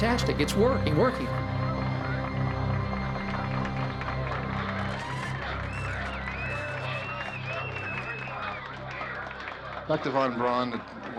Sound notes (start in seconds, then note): 1.5 people applauding; 4.5 cheering, whistling